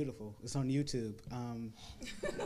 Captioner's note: crowd laughs